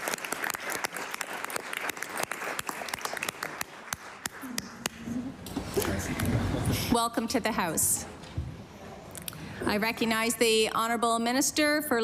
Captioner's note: applause